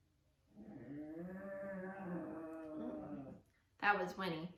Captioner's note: deep growl